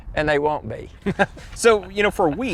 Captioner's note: both laughing